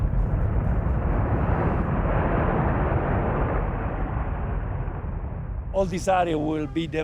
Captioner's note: pyroclastic flow roaring